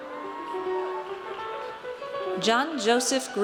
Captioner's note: audience cheers